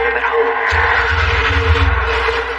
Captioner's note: engine revvg